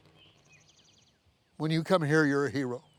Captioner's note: birds chirping